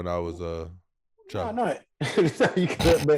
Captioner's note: Rel laughing